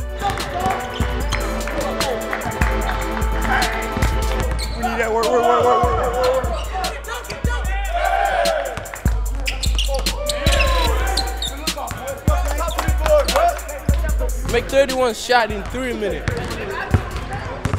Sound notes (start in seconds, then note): 0.1 mid-tempo music; 9.0 chattering